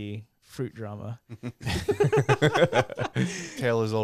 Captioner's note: laughing